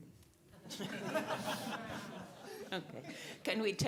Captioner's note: audience laughing